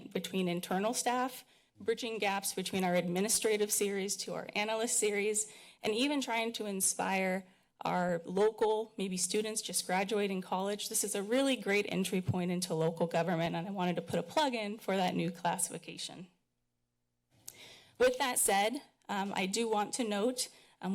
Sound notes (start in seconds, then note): 16.3 pause